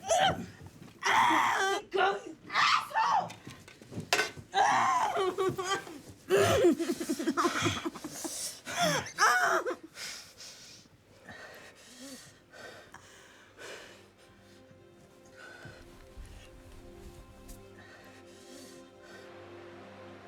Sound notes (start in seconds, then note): 0.2 Dorothy grunting and screaming; 4.2 tray clanking; 4.5 Dorothy screaming and sobbing; 11.5 orderly breathing heavily; 17.3 pensive music